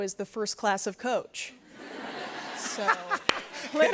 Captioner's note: laughter